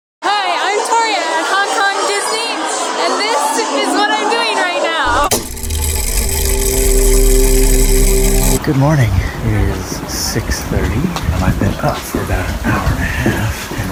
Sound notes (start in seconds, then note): 0.1 loud chatter in background; 5.0 mechanism whirring